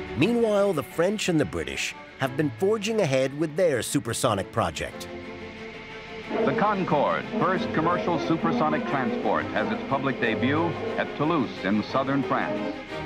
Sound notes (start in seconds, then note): 6.3 radio voice